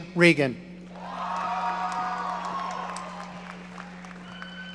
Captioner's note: audience cheering